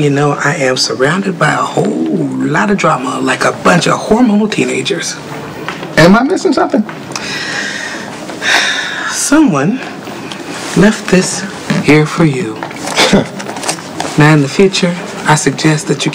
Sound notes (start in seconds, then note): 8.4 sighs; 12.9 Terrell chuckles